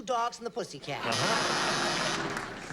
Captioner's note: buzzer